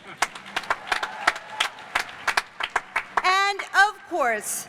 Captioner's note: cheers and applause